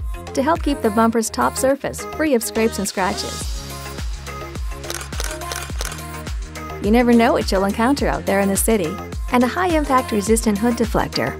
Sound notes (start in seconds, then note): 3.5 upbeat music plays; 4.8 sound of camera shutter